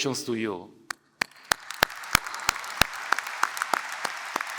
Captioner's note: applause